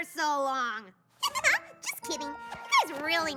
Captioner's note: giggle